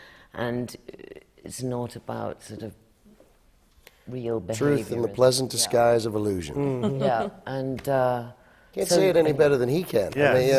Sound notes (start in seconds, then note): 6.8 laughs